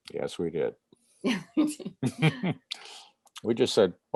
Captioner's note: laughter